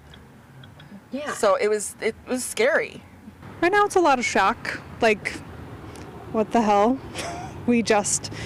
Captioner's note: lghauter